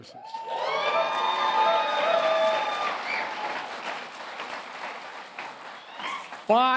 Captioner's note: applause